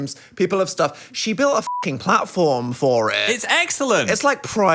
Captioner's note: beep